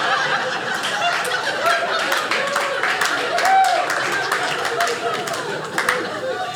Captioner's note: audience applauding; audience laughing